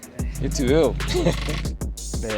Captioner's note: laughs